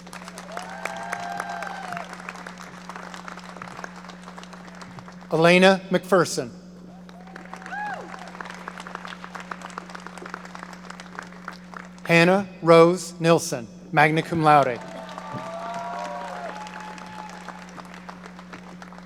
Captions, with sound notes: (audience applauding) Alaina McPherson. (audience applauding) Hannah Rose Nilsen, magna cum laude. (audience cheering)